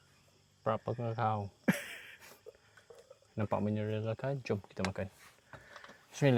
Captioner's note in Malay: ketawa